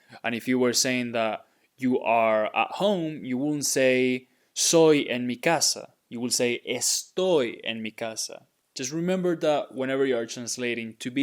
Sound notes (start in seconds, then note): 4.5 speaking in Spanish